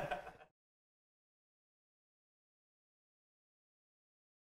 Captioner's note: everyone laughs